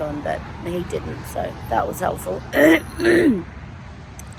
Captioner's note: clears rough throat heavily